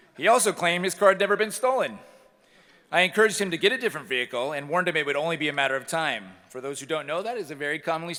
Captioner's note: none